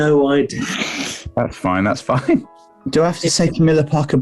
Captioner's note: sniggering